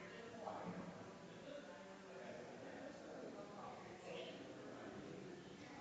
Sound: people chattering distantly continues

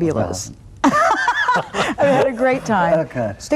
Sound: laughing

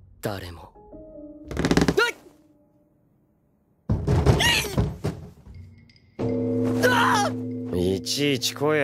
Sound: creak; the bell rings

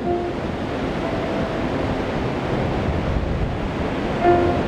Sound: ocean roaring

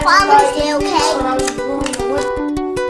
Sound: kissing sound

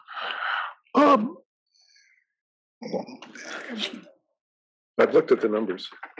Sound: cough

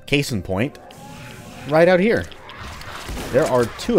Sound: shotgun blasting

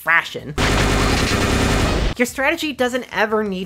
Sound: glorious FPS noises

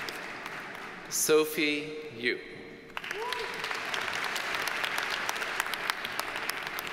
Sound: audience cheers and applauds

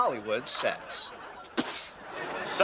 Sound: spitting

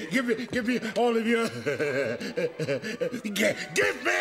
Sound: laughing

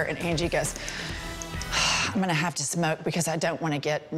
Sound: sighs

